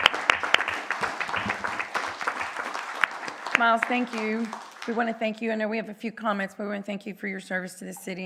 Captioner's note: applause